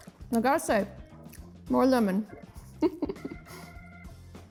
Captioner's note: laughs